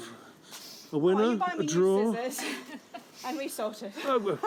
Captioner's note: women talking